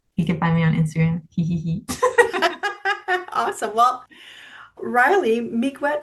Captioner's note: laughs